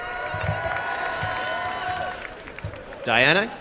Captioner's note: applause and cheering